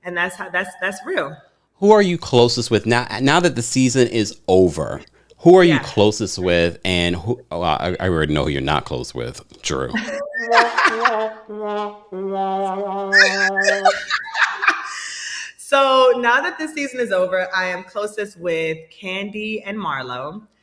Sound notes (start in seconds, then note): 10.6 Sanya laughing; 10.6 sad dramatic music